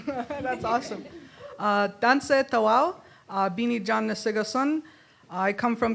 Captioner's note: in Indigenous language; in English